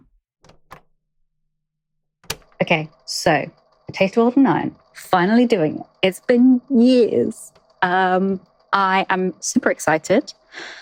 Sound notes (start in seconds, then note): 5.0 tape recorder clicks on